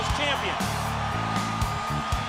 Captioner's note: crowd cheering